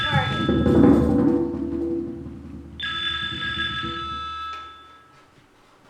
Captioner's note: phone ringing